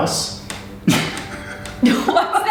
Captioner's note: laughs